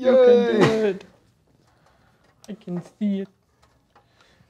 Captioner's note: chuckles